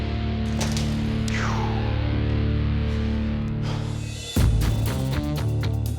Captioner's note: sighs